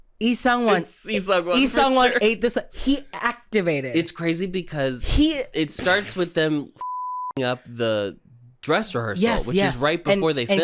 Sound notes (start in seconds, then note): 5.6 splutters